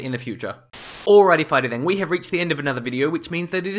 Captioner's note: Static